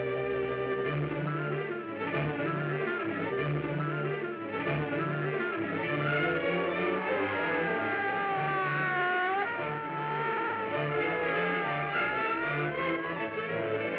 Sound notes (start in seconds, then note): 2.3 fast-beat music; 8.6 bike engines roaring